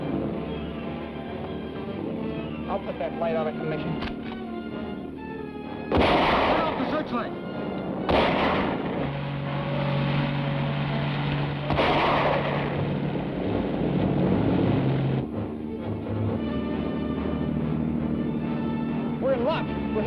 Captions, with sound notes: I'll put that light out of commission. (gun fires) - Turn off the searchlight! (engine rumbles) - We're in luck,